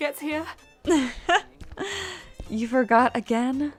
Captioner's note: Arbor laughs